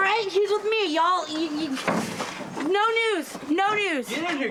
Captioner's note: stammers